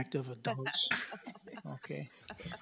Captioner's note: people chuckle